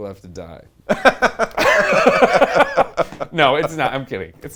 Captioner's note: laughs